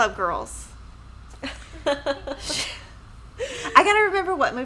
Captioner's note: laughing